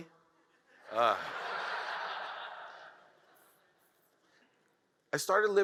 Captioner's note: audience laughs